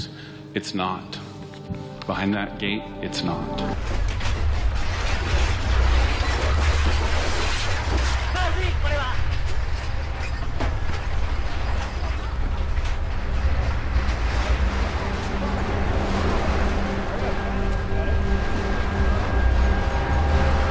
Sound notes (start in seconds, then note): 4.5 buildings clanking; 4.5 earth rumbling; 9.5 buildings clanking; 9.5 earth rumbling; 18.4 ominous music